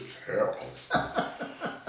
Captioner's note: laughing